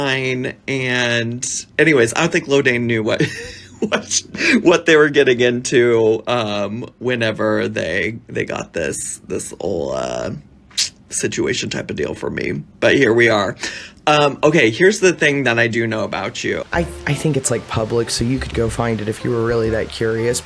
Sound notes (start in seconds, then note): 3.2 laughs